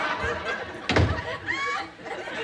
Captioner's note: door slams